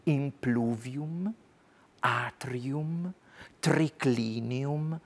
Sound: speaks foreign language

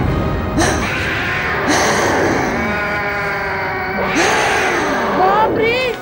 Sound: grunts

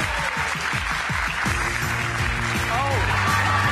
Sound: audience cheers

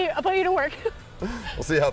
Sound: laughing

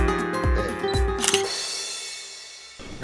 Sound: click

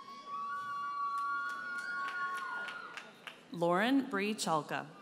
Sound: audience cheers and applauds

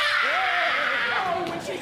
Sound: screaming

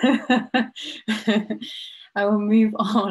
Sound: laughing

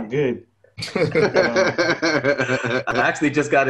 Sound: multiple speakers laugh

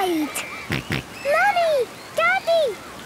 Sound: George snorts

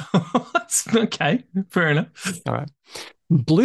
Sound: laughs

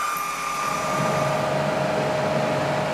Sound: humming

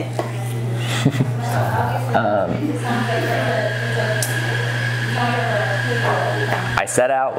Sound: laughing

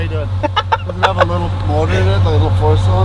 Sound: laughing

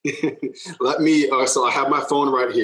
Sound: laughing

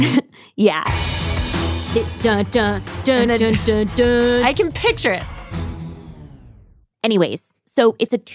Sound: laughs

